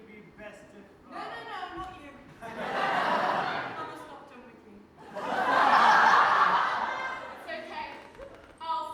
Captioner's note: audience laughs